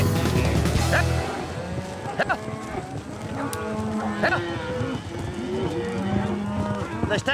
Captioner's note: cattle mooing